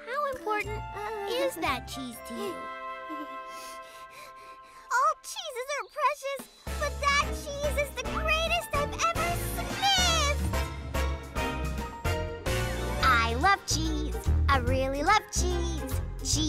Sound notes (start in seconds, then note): 3.0 chuckling nervously; 3.4 breathing heavily; 11.0 upbeat jazz music playing